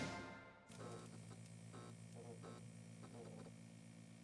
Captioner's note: upbeat music ends; neon buzzing